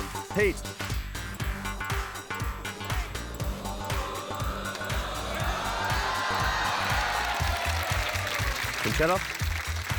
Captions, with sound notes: Pete. (CHEERING, APPLAUSE) Concetta.